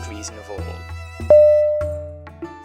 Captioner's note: ding!!!